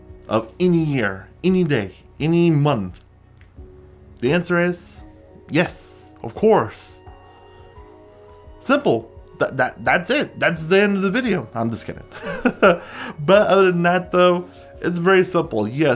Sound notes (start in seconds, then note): 12.2 laughs